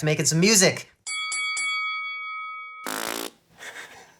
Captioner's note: bell ding; blows raspberry